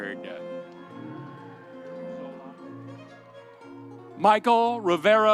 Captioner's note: audience cheering